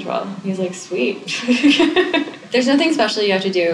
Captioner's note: laughs